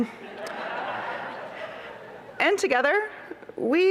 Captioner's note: laughter